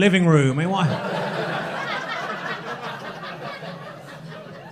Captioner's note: crowd laughing